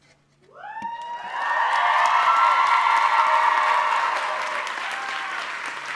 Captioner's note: audience cheering and applauding